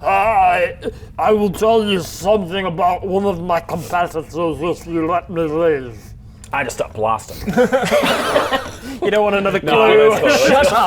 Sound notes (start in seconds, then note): 7.4 foolish laughter